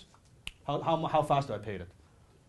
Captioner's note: finger snapping